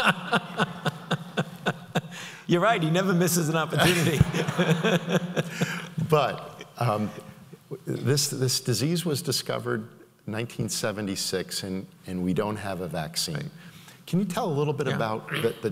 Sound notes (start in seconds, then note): 0.0 laughs; 3.8 audience laughs